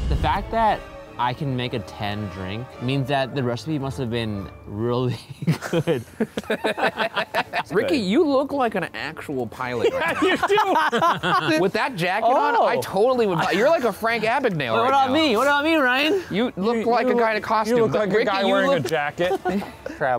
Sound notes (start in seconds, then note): 5.3 group laughing; 9.7 laughs